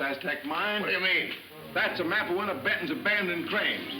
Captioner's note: wagon rattling; pleasant music